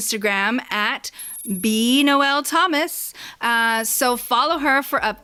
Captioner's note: scifi computer typing sound before and after @